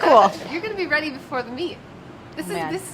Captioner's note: laughs